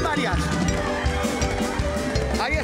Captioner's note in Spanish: Gritos